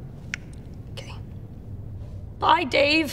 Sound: whispers

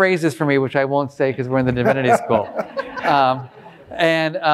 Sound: all laughing

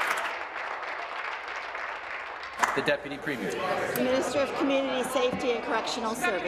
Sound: applause

